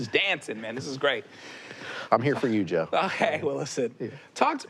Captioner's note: laughs